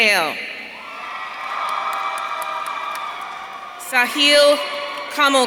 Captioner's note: audience cheering